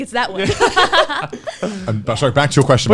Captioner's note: laughs